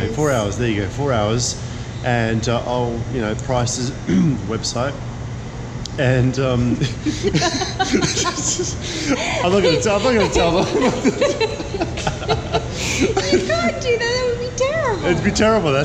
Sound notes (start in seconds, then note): 4.0 clearing throat; 6.2 laughing; 10.7 laughing